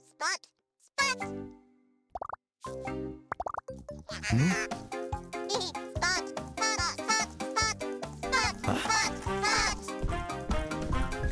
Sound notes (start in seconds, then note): 1.9 popping; 4.1 robotic giggling